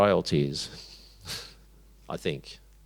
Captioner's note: chuckles